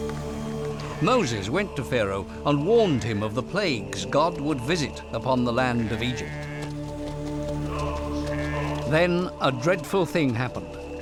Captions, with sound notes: Moses went to Pharaoh and warned him of the plagues -God would visit upon the land of Egypt. -[sheep baaing] [men chanting] Then a dreadful thing happened: